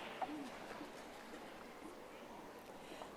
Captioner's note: audience applauding